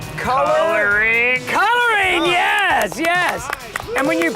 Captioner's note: contestants cheering